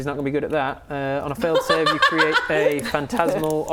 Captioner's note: laughs